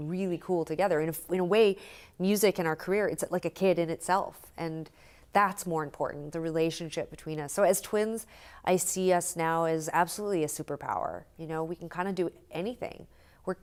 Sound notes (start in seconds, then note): none